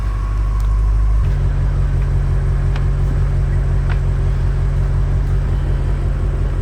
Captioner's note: engine noise